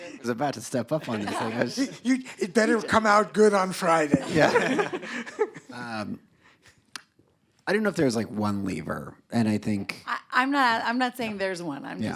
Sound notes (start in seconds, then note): 4.1 laughter